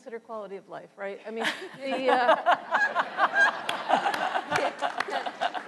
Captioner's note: panel and audience laughs